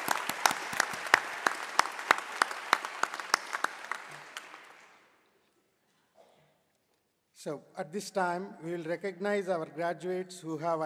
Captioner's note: applause